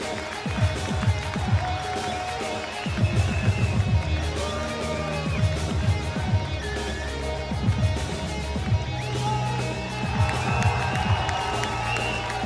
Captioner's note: cheers and applause